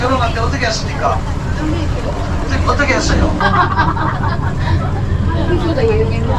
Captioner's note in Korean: 웃음